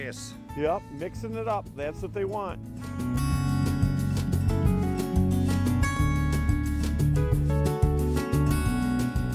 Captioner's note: voiceover